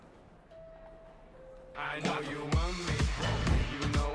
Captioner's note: electronic tones